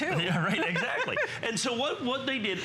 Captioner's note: laughter